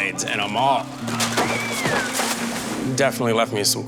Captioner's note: screaming